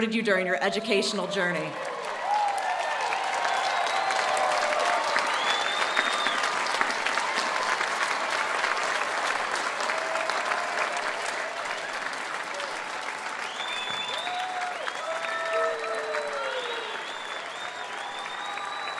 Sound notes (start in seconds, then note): 5.4 cheering and applause